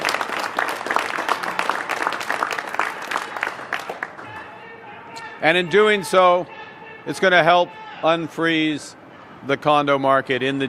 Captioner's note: applause